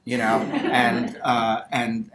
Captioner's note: audience laughter